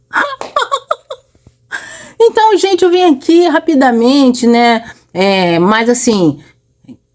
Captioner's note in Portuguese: risadas